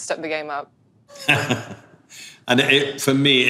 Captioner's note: laughing